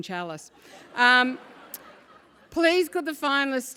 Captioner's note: laugh